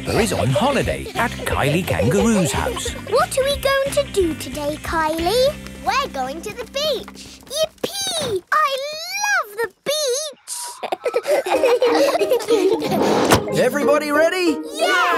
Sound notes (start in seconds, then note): 10.5 all laughing